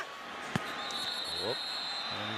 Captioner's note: whistling